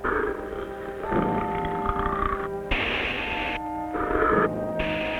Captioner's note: creature growling